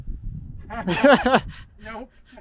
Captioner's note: both laughing